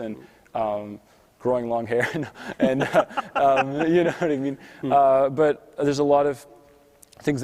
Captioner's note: laughs